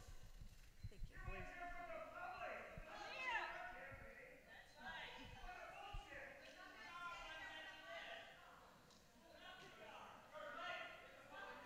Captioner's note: shouting continues